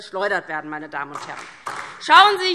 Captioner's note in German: Beifall DIE LINKE